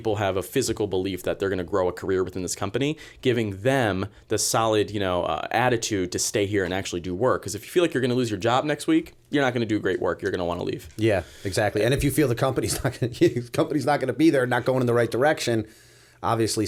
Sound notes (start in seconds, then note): 13.3 chuckle